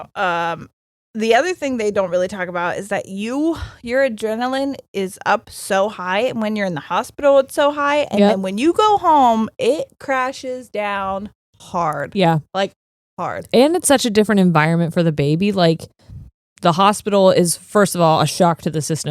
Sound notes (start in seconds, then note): none